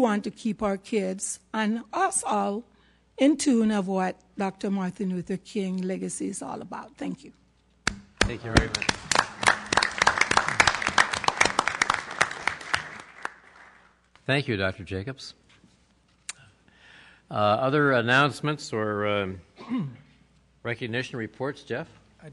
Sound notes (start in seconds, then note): 8.2 applause